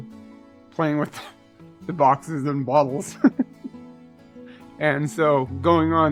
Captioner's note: laughs